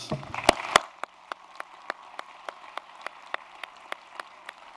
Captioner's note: applause